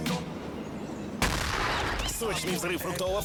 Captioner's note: explosion